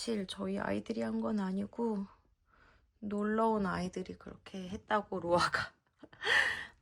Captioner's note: sigh